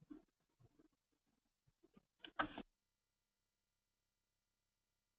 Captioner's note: pause